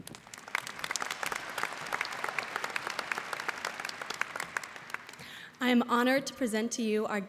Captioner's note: applause